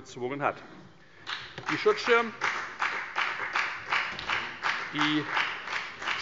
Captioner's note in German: Beifall bei der FDP